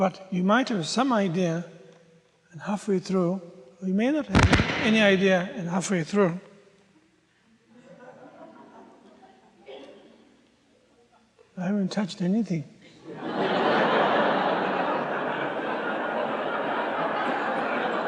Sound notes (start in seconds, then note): 4.3 microphone distraction; 13.0 audience laughs